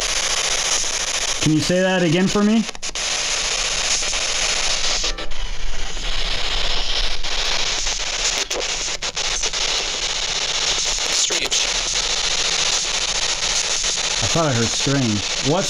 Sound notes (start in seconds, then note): 3.3 static